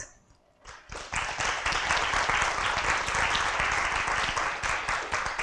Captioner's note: applause